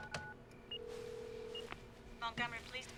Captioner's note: dialing tone